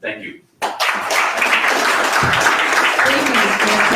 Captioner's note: audience applauds